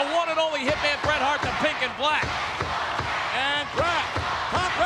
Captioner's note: spectators cheering